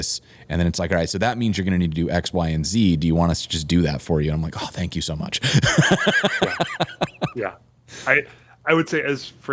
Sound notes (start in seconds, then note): 5.5 laughter